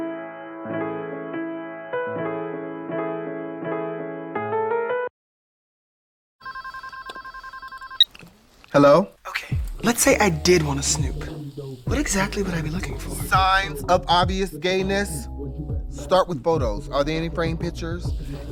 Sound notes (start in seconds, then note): 0.0 piano music; 6.4 phone ringing